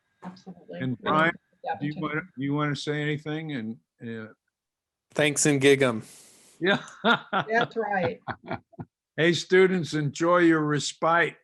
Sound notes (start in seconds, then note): 6.7 laughs